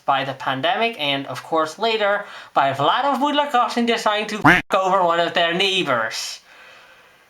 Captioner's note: quack